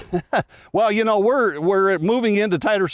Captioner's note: laughs